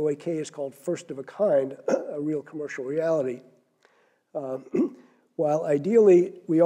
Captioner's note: cough